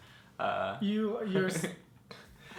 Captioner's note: giggles